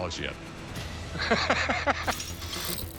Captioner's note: laughs; dramatic music